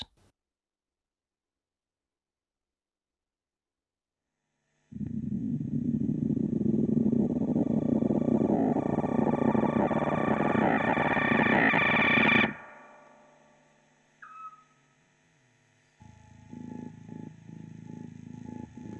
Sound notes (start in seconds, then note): 12.7 music stops; 14.2 beeping sound